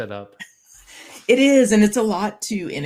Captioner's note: laughs